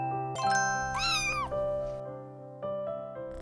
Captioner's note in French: Un chaton qui miaule